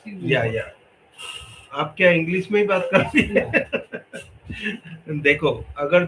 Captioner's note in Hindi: हंसी